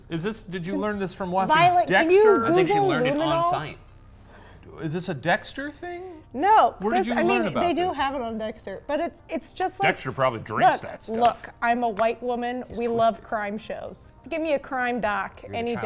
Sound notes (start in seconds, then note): none